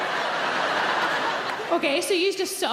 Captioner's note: audience laughs